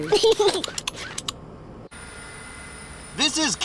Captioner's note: snorts; giggles